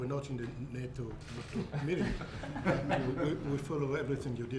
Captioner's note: laughter